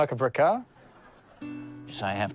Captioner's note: laughter